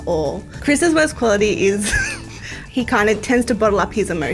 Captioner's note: laughing